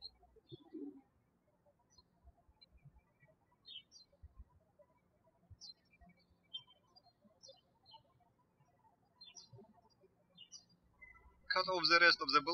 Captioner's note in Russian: птички щебечут